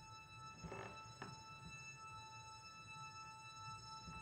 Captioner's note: stairs creaking